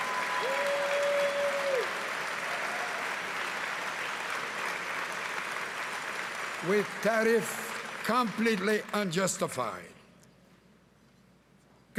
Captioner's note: cheering and Applause